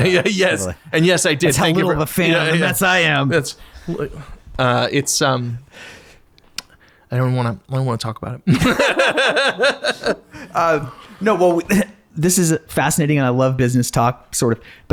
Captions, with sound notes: Yes, and yes I did. That's how little of a fan that I am. I don't wanna talk about it. (laughing) No, well, this is fascinating. I love business talk sort of,